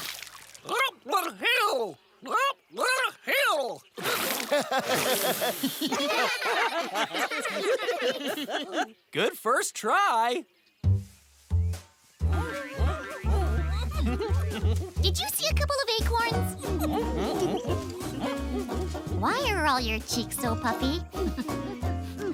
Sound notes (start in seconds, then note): 4.0 spitting sounds; 4.1 giggling; 12.3 closed mouth giggles and efforts; 16.6 closed mouth giggles and efforts